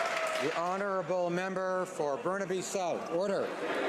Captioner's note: some Applause